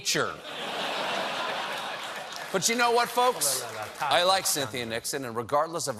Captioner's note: laughter